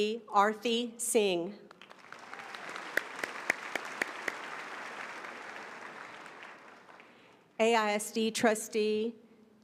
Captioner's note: applause